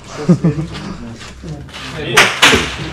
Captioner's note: shots